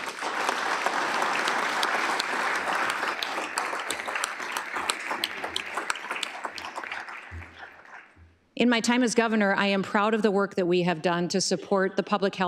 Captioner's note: applause